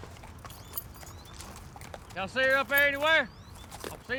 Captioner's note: trotting